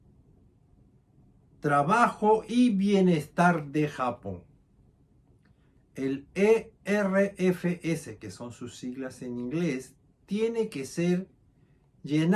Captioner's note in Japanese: 英語